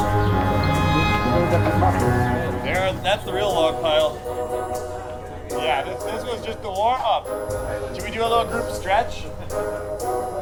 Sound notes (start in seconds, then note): 0.2 gentle music continues; 1.3 crew member laughs; 1.7 crew members chattering